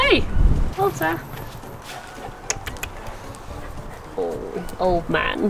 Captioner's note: clicks tongue